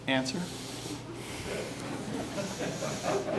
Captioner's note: laughter